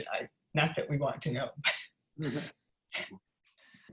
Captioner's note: chuckles